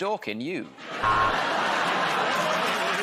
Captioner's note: laughter; buzzer buzzes